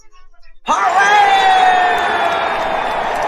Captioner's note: all cheering